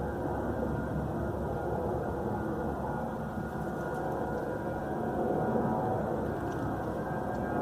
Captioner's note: airliner approaching